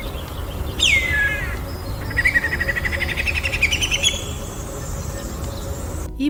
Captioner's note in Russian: звучит песня коршуна - свистуна